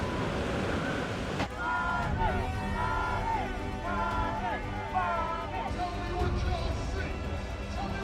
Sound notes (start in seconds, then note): 1.4 crowd